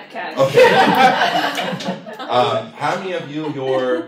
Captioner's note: laughter